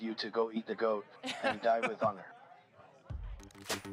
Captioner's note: speaks klingon